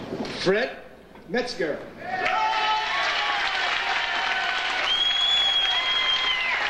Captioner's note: audience applauds and cheers